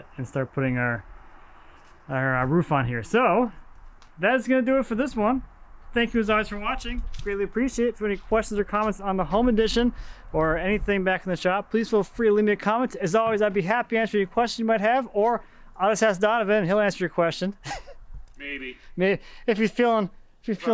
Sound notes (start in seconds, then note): 17.6 chuckles